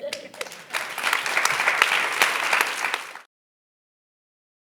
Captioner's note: audience applauding